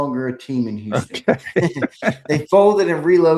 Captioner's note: laughs